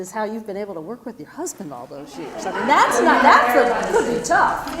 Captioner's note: laugh